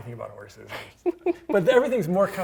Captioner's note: laughing